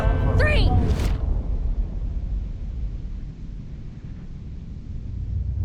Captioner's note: wind whooshing softly